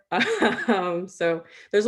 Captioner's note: chuckles